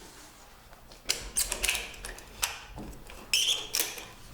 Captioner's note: clattering sound